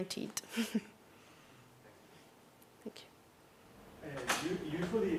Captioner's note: laugh